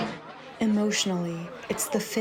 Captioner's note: through translator